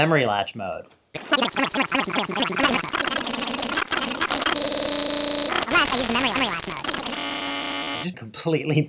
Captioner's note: chipmunk-y, sped up sounds